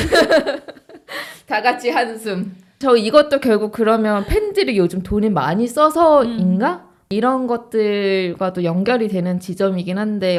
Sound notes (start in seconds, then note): 1.0 everyone sighs